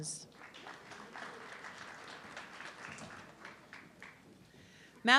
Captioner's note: audience clapping